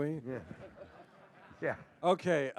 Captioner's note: laughter